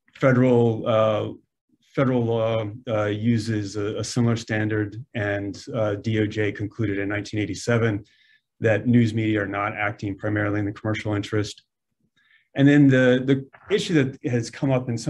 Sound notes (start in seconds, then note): none